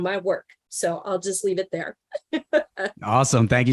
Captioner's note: laughs